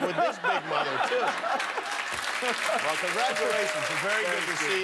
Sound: applause

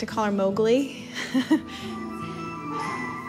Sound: chuckles

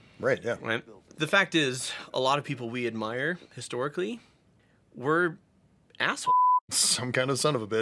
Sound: beeps

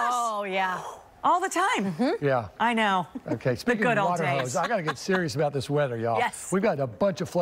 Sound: laughter

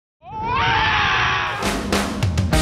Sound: screaming; upbeat music

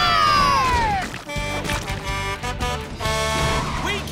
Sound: horn blowing

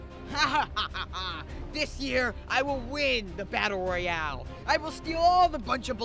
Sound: laughing

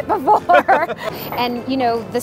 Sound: laughing

